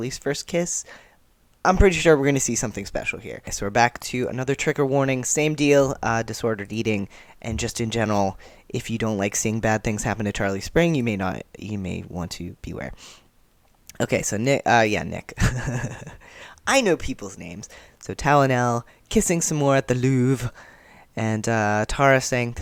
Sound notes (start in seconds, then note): 15.4 laughter